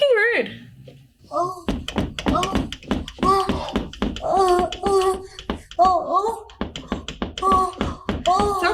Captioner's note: lustful thumping and groaning coming from the other side of the door